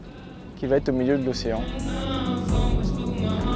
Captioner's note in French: chant